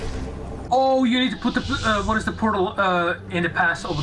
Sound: stutters

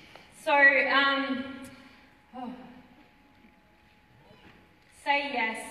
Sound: sigh

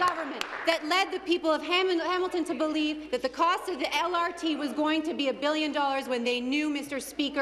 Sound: applause

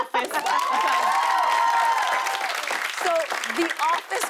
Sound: cheers and applause

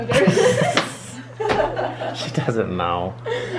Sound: laughter

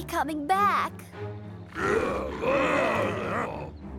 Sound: muttering

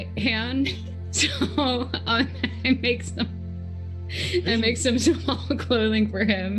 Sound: laughs

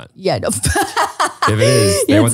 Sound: laughing

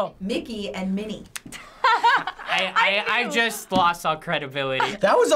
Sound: laughing

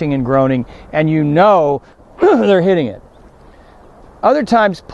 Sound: grunting

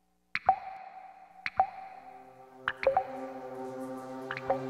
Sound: water dripping

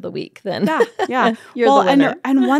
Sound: laughs

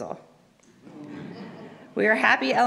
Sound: audience laughs

